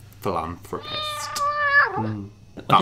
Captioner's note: cat meowing